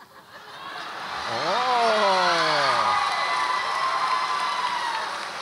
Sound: audience applauds and cheers

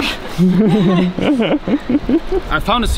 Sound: laughing

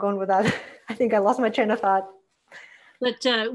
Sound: laughing

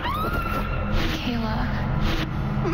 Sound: screams

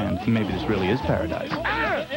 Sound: tires screech; angry exclamation in Hawaiian, ending in "haole"

